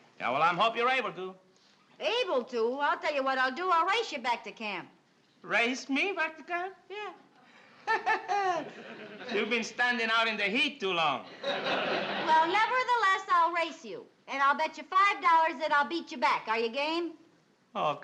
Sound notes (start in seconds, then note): 7.8 laughs